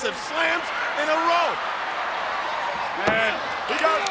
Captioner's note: audience cheers